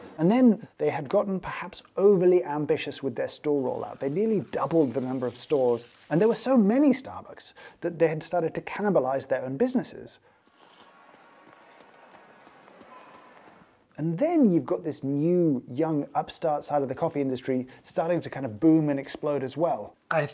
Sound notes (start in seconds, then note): 10.4 footsteps pattering; 10.4 coffee sipping